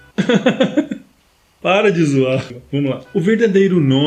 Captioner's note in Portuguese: risos